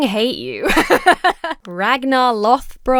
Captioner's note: laughs